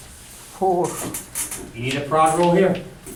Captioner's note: voiceover